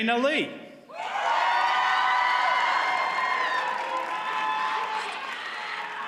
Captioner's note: audience cheers and applauds